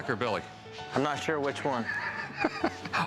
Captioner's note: laughs